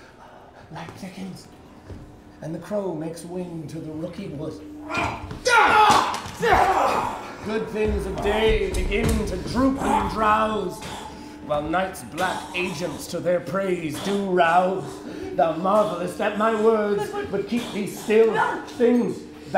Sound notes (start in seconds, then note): 6.4 grunting